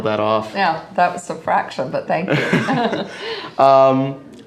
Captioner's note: both laugh